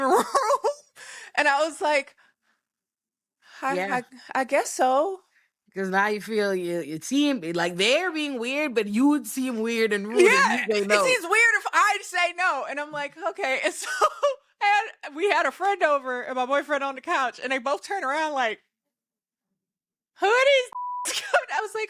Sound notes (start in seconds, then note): 20.7 beep